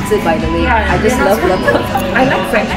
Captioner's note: giggling